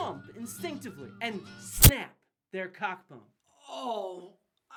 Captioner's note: snap sound